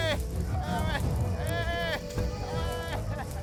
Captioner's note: crowd follows them shouting